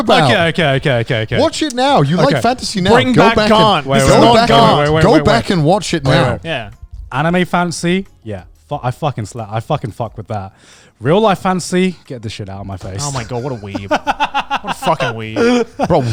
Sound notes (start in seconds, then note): 12.9 laughs